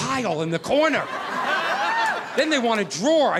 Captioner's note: audience laughing